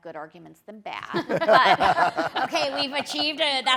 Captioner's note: people laugh